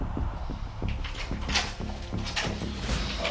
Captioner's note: door opens